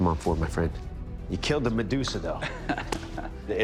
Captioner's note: chuckles